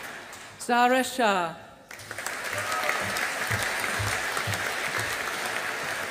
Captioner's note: audience applauding